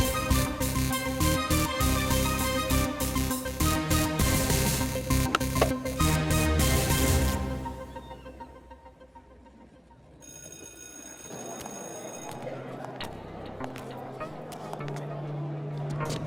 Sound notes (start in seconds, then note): 5.2 skateboard clacking; 10.2 bell ringing; 11.3 students chattering